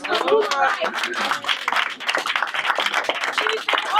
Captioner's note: audience applause